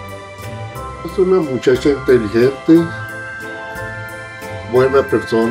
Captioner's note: dad speaks Spanish